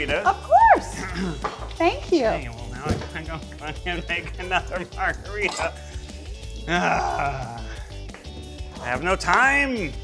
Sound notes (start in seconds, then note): 6.6 groans